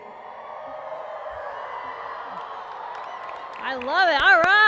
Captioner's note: cheering